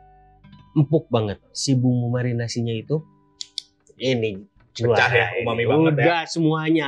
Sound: clicks chopsticks

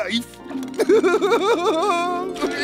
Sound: laughing

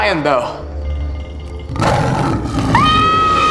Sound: roaring; screaming

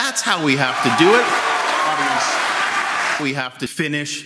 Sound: loud audience applause

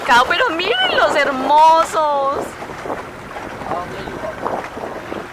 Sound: waves noise

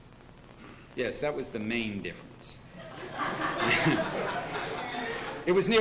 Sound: laughter

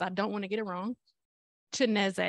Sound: Chineze

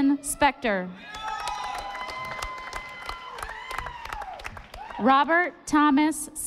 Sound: audience applauding

